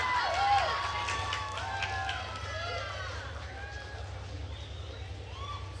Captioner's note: attendees cheering and applauding